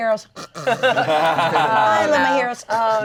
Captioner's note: snoring; players laughing